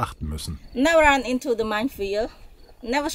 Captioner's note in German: englisch